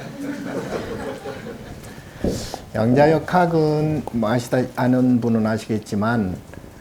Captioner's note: audience chuckling; speaking Korean